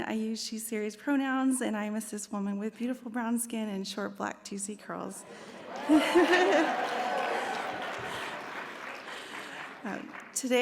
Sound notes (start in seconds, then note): 5.2 audience cheers; 7.2 audience applauds